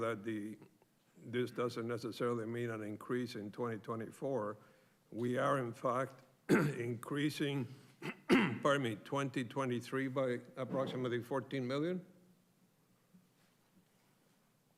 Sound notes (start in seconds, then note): 8.0 clears throat